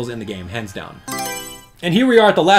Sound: Mario Selection Sound

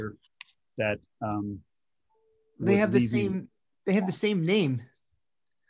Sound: calm Voice

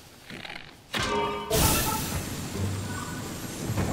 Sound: arrow thuds; dramatic music

